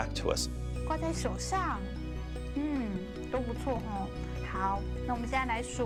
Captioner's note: woman speaking in a foreign language